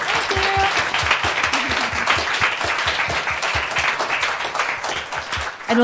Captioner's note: applause